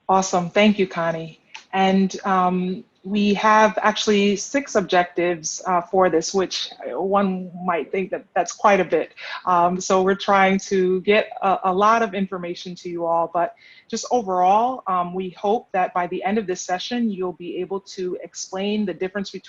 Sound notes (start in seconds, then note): none